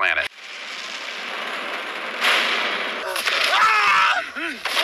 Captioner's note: crashing; scream